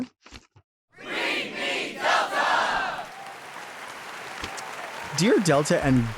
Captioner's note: crowd; audience applauding